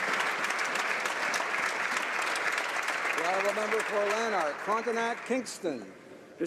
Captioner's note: applause